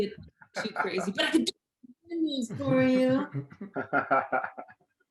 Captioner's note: voice scrambles; participants laugh